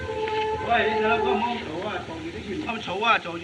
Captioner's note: speaking Chinese